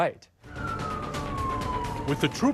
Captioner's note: police siren blaring